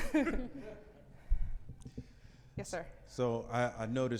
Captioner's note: laughing